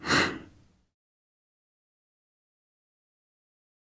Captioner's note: sigh